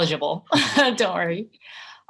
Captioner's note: laughter